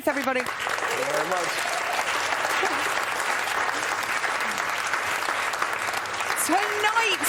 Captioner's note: applause